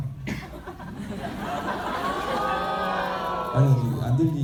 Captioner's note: speaking in foreign language; audience laughing; audience groaning; speaking in foreign language